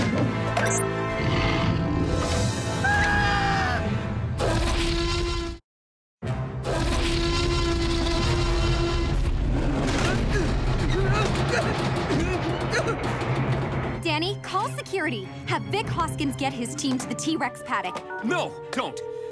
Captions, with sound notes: [screaming] Danny, call security. Have Vic Hoskins get his team to the T-Rex paddock. No, don't!